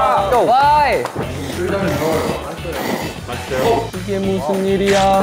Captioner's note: slurps